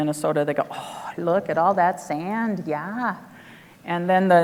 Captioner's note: gasping